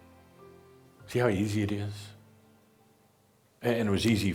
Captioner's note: music stops